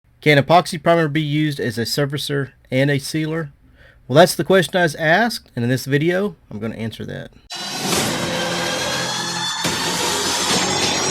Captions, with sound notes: - Can epoxy primer be used as a surfacer and a sealer? Well, that's the question I was asked, and in this video, I'm gonna answer that. (squealing)